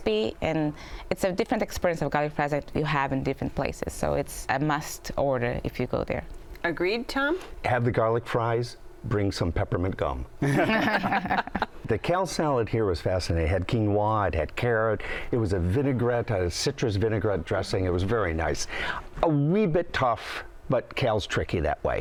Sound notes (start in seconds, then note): 10.4 laughter